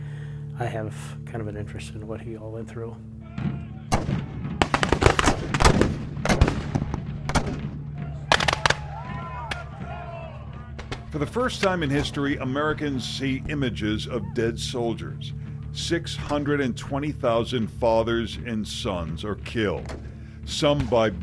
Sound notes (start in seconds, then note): 3.8 guns firing